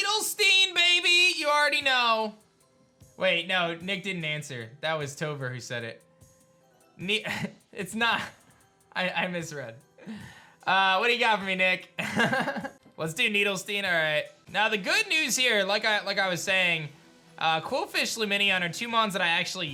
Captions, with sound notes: Needlstein, baby. You already know. Wait. No. Nick didn't answer. That was Topher who said it. Ni... It's not... I misread. What do you got for me, Nick? (chuckles) Let's do Needlstein. All right. Now, the good news here, like I was saying, Qwilfish Lumineon are two Mons that I actually used